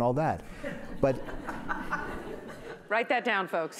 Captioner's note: laughing